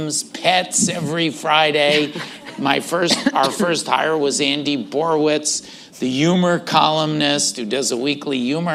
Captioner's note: laughter